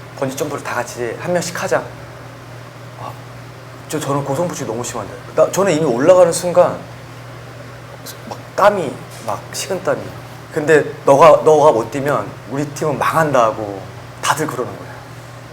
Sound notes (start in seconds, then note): 2.8 hesitant